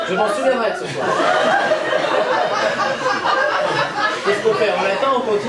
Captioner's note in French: rires public